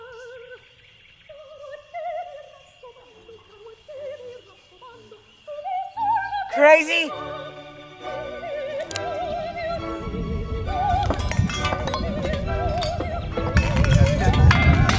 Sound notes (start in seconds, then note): 8.7 click; 9.9 rumbling and clattering